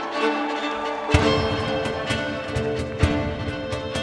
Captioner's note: audience cheering